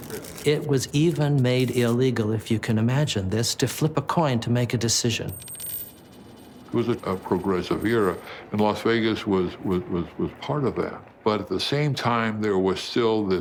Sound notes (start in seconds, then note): 5.3 coin jangles